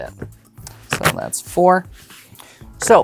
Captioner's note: cards riffling